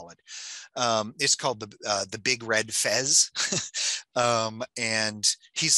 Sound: laughs

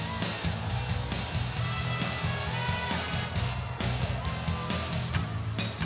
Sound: distant Crowd Noise

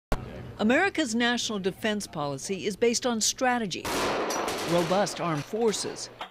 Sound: gun firing

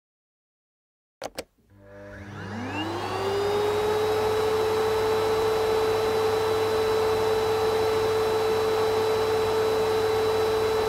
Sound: sound of vacuum

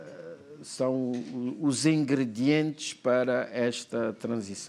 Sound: speaking portuguese

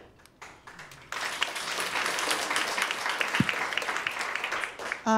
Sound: audience applauding

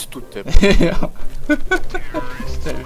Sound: laugh

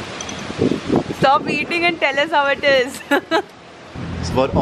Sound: laughs

